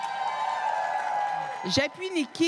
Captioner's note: cris et applaudissements